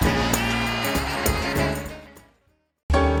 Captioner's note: applause